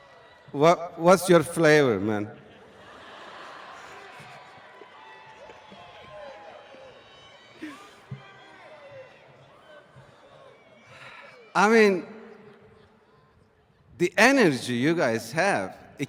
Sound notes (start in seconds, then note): 5.9 laughter